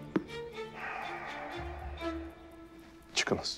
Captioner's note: sigh